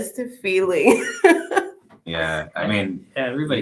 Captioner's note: laughing